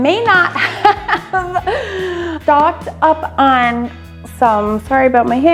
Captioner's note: laughs